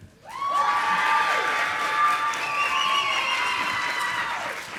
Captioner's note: audience applauding